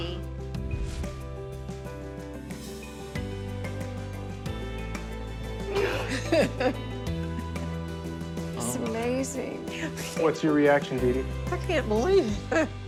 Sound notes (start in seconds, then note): 0.1 bright music; 5.7 laughs